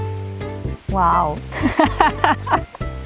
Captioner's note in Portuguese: risos